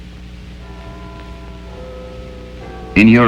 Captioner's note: bell tolling